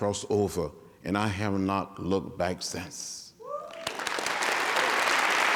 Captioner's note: applause